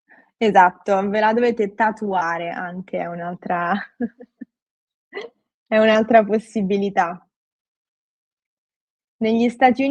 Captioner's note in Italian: schiarire la voce